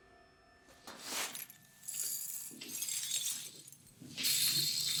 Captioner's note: glass jingling